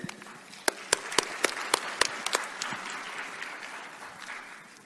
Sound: claps; crowd applauds

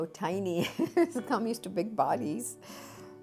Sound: laughing

